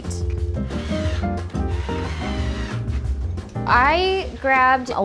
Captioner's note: drill whirring